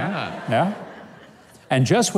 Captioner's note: audience laughs